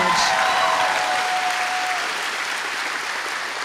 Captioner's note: applause